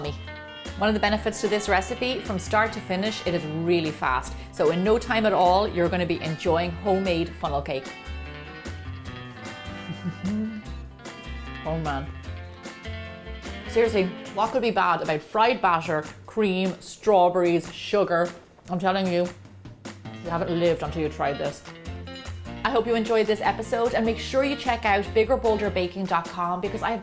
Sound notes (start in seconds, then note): 9.8 laughs